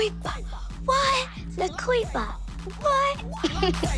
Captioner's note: laughs